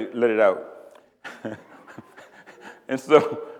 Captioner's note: laughs